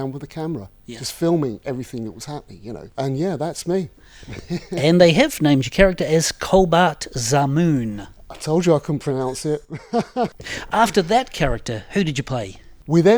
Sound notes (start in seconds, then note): 9.6 laughs